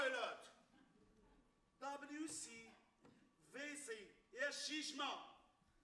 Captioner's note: man speaks Arabic